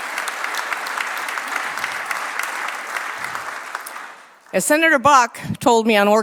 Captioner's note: applause